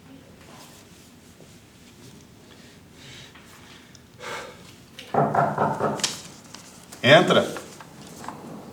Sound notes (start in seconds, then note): 4.2 sigh; 5.1 knocks on door